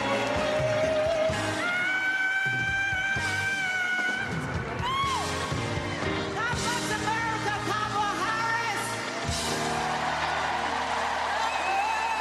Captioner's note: applause